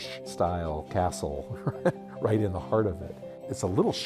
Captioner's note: laughs